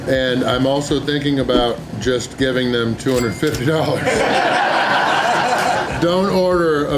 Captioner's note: crowd laughter